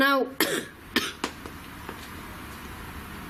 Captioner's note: coughs